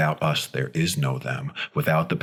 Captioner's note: none